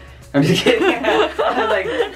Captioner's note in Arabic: الكل يضحك